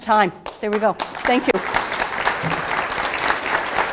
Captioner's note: applause